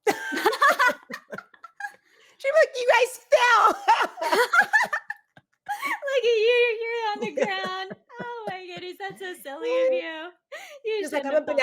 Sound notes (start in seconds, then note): 0.0 both laughing; 3.4 laughing